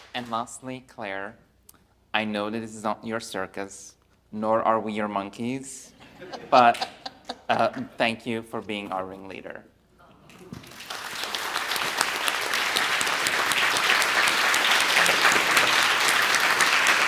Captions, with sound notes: And lastly, Claire, I know that this is not your circus, nor are we your monkeys, but thank you for being our ringleader. (audience applauds)